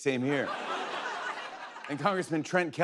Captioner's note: laughter